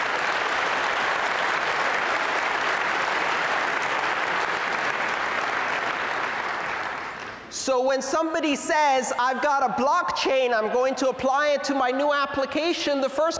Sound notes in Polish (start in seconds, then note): 0.0 Aplauz